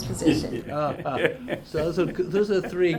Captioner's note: laughs